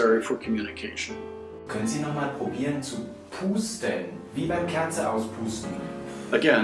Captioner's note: therapist speaking in German